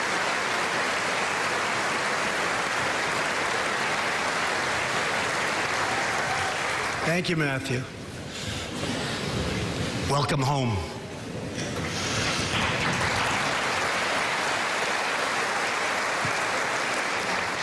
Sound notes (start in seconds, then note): 11.8 applause